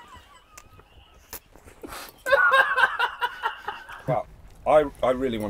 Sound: egregious slurping sounds & childish laughter

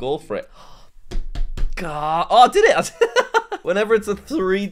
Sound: laughs

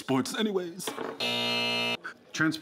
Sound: alarm buzzing

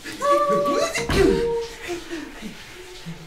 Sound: panting; door closes

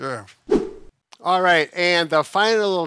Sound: whooshing sound

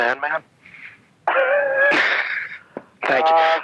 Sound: laughing

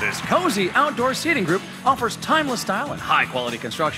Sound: cheers and applause

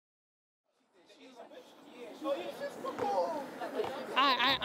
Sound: crowd chattering

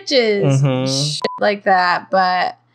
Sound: beep

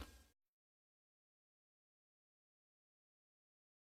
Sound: silence

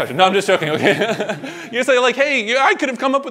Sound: laughs

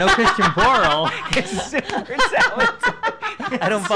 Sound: laughing

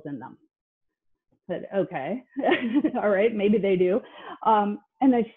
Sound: laughs

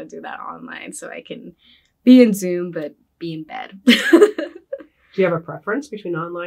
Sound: laughs

